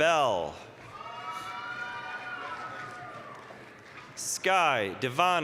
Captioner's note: applause, cheering